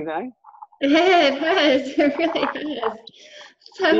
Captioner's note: laughing